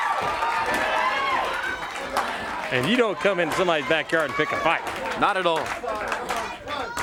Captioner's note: crowd chatter